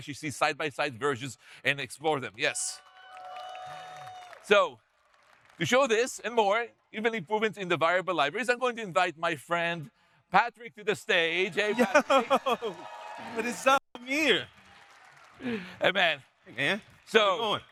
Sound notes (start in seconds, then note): 2.7 audience cheering